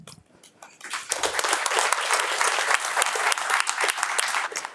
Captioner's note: attendees clapping